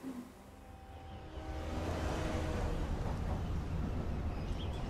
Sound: train horn blaring

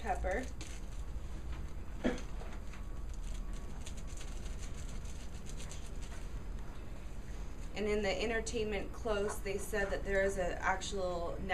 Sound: cough

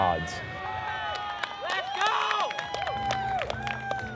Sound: applause

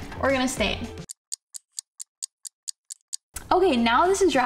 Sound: clock ticking

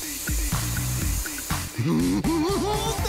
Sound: giggling

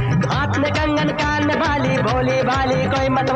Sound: none

